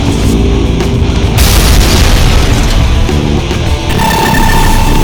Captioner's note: explosion booms; ground crashes